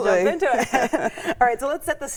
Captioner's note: both laughing